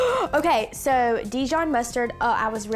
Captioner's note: gasping